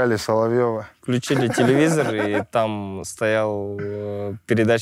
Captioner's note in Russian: смеется